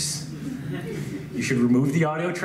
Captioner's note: laughs